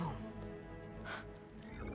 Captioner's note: gasp